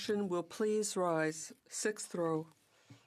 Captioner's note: speaking French